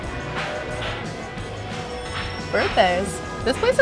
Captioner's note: people clapping